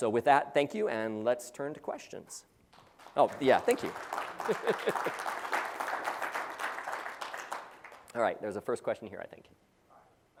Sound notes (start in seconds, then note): 4.2 laugh; 4.3 applause